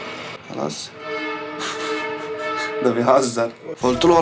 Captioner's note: laughing